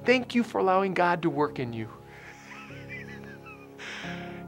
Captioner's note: laughter